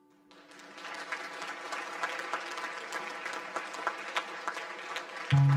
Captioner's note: audience applause; upbeat music